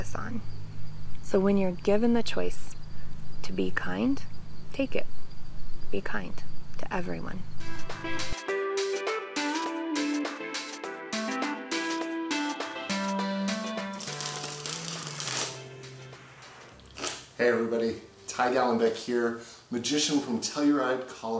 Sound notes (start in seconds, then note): 7.3 upbeat music; 14.0 flipping sound